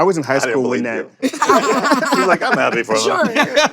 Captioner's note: laughter